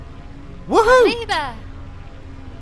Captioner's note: cheers